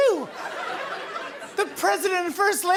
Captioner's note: laughter